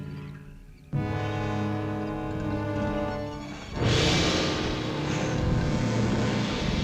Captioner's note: ominous orchestral music; lion grunting